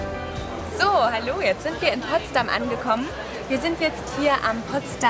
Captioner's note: speaks in foreign language